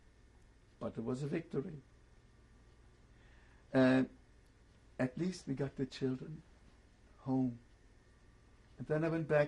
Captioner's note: pauses for 3 seconds